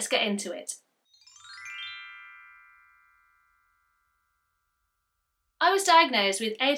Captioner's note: chimes